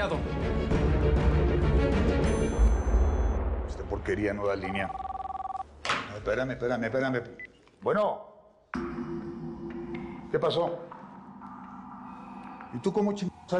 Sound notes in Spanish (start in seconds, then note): 4.6 Suena el teléfono